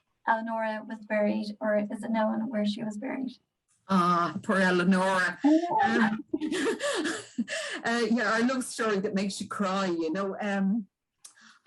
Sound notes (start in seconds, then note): 5.8 laughter